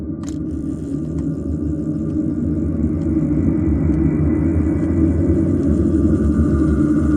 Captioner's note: gears whirring